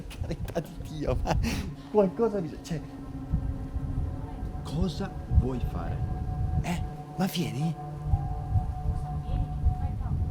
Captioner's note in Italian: risate